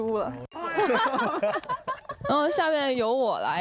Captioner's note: heh heh